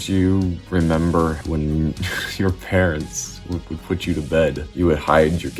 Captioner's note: laughs